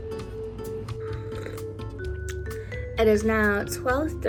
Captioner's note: pensive music; sipping drink